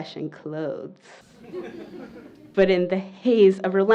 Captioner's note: laughter